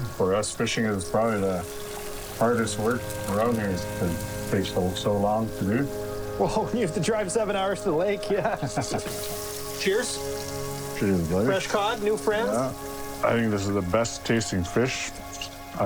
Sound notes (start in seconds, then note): 8.2 both laughing; 8.5 food sizzling